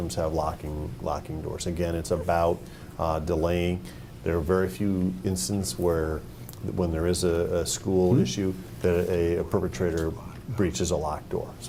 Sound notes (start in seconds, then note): none